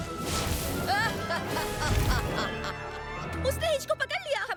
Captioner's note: laughing